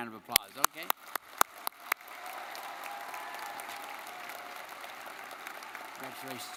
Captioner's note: audience cheering and clapping